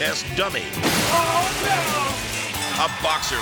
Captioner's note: car crashing